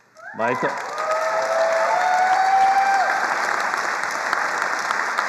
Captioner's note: attendees cheering and applauding